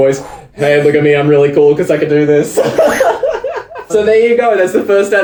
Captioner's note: laughs